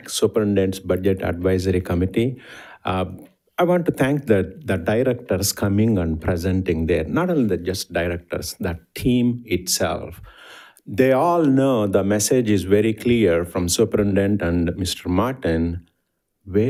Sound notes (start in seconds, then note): none